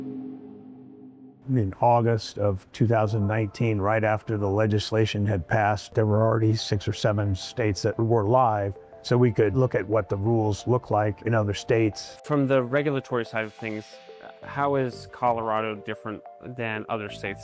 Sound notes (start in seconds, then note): none